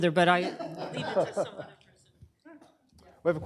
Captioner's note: laughter